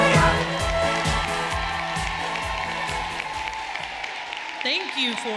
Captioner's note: audience applauding and cheering